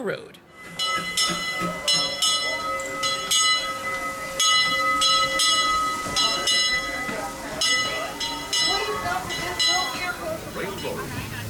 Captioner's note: bell ringing